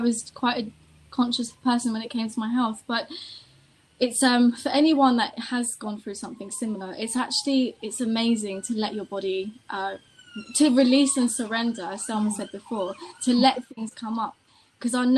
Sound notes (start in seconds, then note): 9.1 siren sound